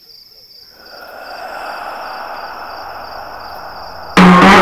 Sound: ghostly voice

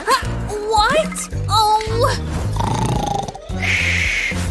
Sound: snoring

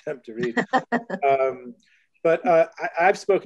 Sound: laughs

